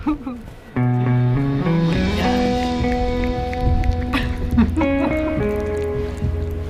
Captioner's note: gentle guitar music; Freddie eating